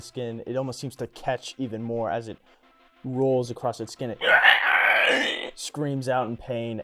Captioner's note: mock screaming